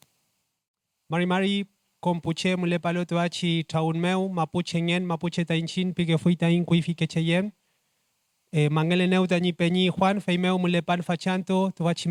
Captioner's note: speaking Spanish